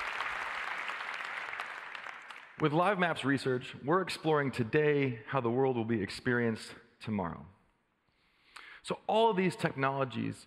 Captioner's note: applause